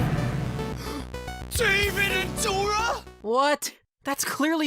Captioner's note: gasp